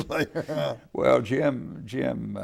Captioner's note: laughing